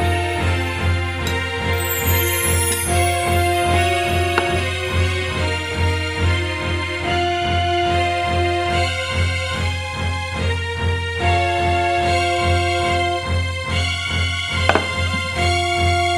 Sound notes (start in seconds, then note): none